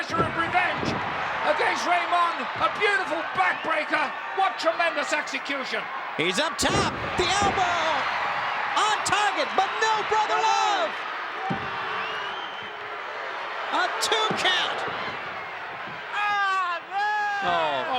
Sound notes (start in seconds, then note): 11.5 hand taps